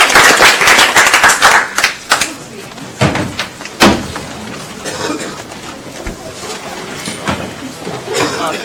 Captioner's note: applause; background chatter